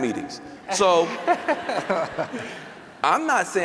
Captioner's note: laughter